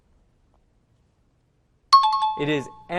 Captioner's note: timer bell rings